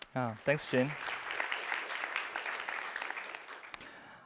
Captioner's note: applause